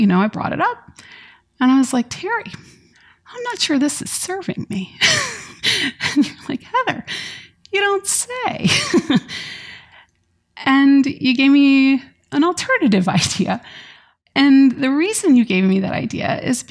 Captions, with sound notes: know, I brought it up and I was like, "Terri, I'm not sure this is serving me." [laughs] And you were like, "Heather, you don't say," [laughs] and you gave me an alternative idea. And the reason you gave me that idea is